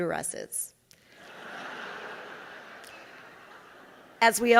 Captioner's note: audience laughing